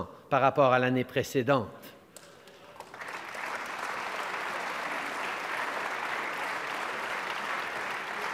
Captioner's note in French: Applaudissements